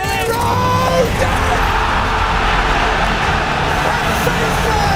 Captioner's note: audience cheers loudly